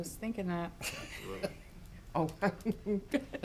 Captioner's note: speakers laughing